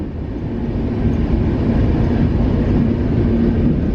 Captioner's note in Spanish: sonido del tren en marcha